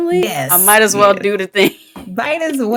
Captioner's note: chuckles